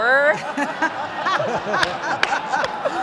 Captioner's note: laughing